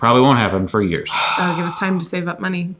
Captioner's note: sighs